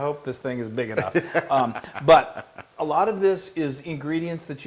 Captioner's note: laugh